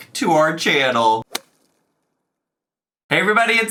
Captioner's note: whip cracks